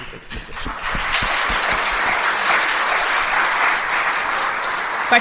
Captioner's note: applause